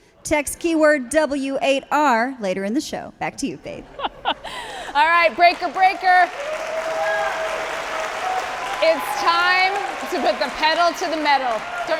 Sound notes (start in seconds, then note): 7.3 audience applauding